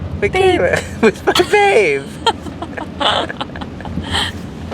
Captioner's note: laughs